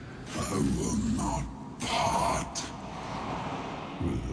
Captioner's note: in deep voice